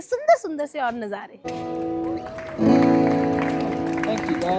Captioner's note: applause